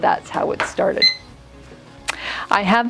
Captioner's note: timer beeping